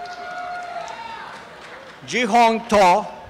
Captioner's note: applause and cheering